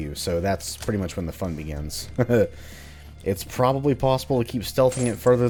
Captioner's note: chuckles